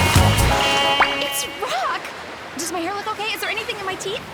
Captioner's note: gasping